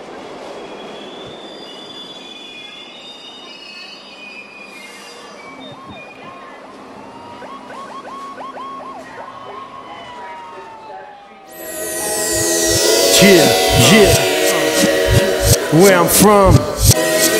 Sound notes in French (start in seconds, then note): 0.0 NYC son de métro; 5.4 Scène de rue - Sirène de Police